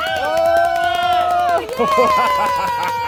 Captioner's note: cheer